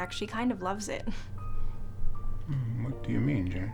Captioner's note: none